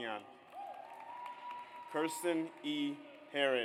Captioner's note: audience applauds